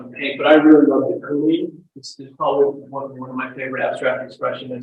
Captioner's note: audio breaks